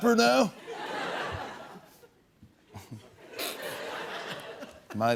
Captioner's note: laughter